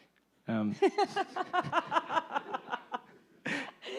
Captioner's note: laughs